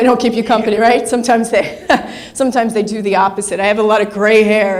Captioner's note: laughs